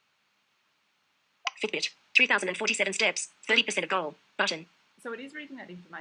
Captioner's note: VoiceOver announcing content